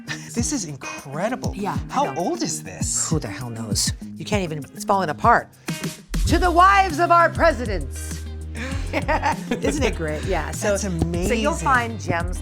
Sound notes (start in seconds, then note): 8.6 both chuckle